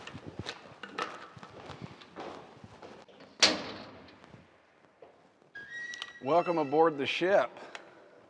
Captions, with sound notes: (door creaks) Welcome aboard the ship.